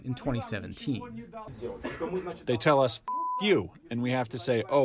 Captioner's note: through translator